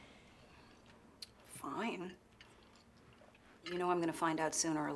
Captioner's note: clicks tongue